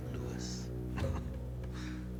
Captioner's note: chuckles